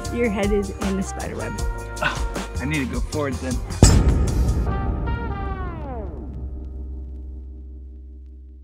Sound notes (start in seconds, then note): 3.8 thud reverbarates